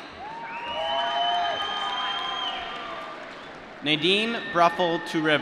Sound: applause

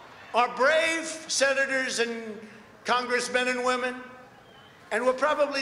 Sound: applause

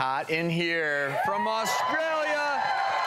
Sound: audience cheers

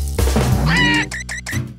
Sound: Pato screams

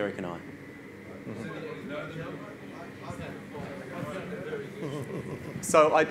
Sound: audience chatters

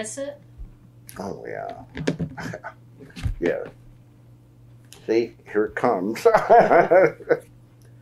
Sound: laughs

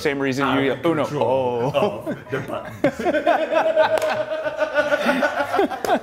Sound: laugh

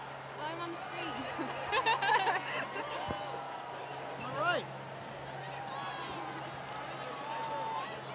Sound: laugh; applause

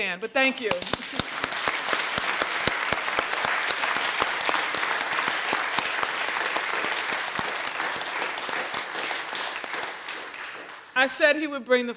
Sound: applause

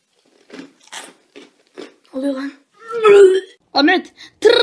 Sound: puke

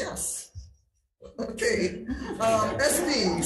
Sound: crowd laughing

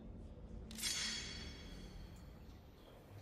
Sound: METALLlC RUSTLING

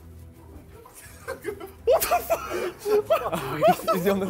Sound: laughs

